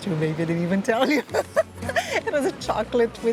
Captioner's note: laughs